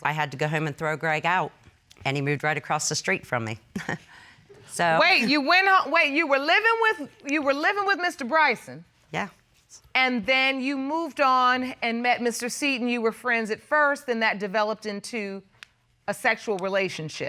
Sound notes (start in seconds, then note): 3.8 chuckles